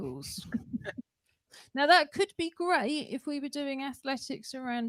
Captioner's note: laughter